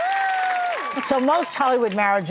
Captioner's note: cheers and applause